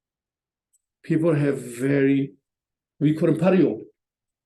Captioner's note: tibetan